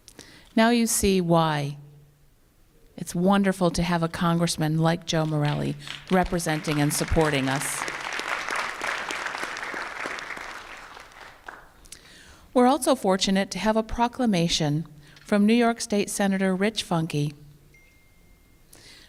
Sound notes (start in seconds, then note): 7.7 applause